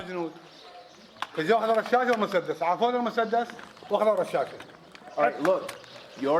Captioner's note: man speaks in Arabic